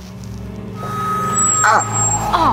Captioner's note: electronic feedback ringing